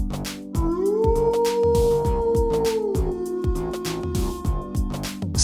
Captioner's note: werewolf howling